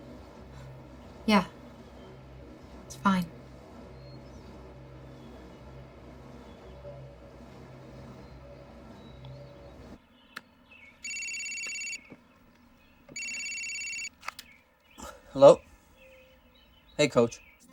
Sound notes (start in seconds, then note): 11.0 phone rings